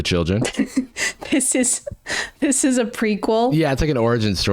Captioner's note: chuckles